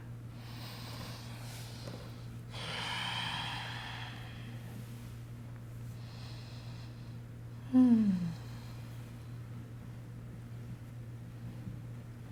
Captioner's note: breathing